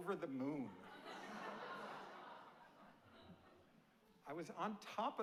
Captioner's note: audience laughing